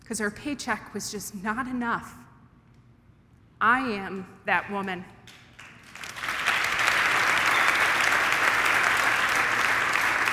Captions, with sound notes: 'cause her paycheck was just not enough, I am that woman. [audience applauding]